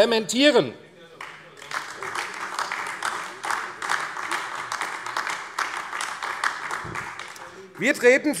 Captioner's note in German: Beifall